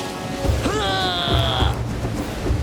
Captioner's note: grunting